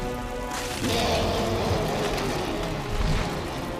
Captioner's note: sphinx roaring